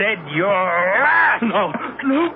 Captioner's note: screams